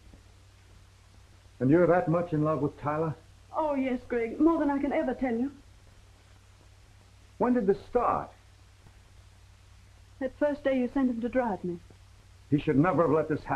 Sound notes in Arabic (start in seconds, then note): none